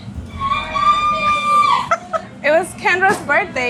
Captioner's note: people yelling